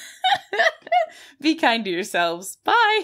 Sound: giggling

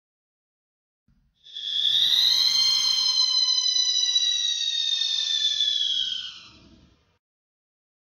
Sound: scream

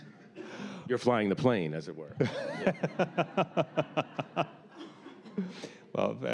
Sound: laughter

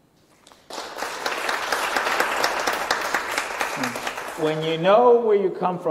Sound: applause

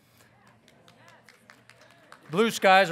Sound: audience assenting

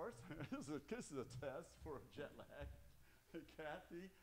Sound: laughing

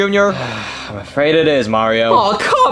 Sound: Junior sighing

